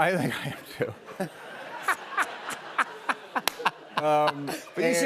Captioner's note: laughter